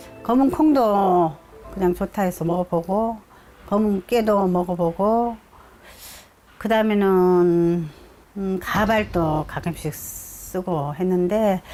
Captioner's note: voiceover